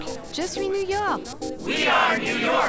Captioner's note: French